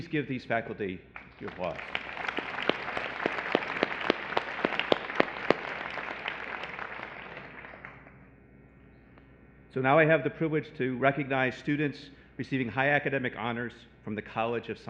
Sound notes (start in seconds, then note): 1.1 applause